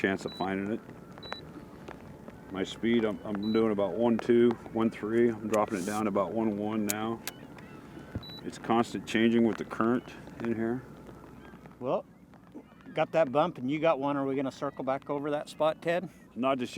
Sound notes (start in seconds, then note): 8.2 beep, beep